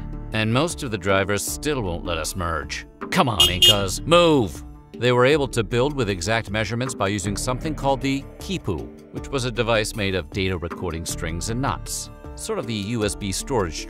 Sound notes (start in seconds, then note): 3.3 car honking